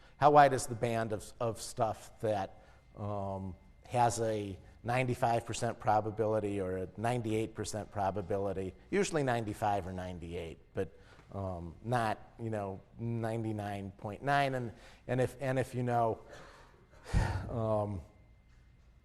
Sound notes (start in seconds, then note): 16.8 laugh